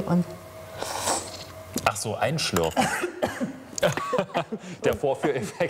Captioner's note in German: Schlürfen